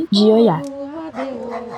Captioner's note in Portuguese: cântico sagrado continua; latidos ao fundo